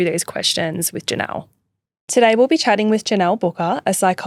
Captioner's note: none